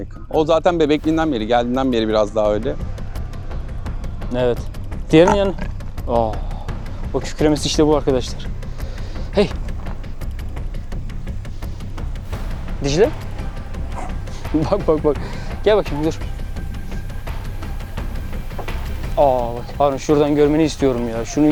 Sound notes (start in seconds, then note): 5.2 roaring sound; 8.5 tension music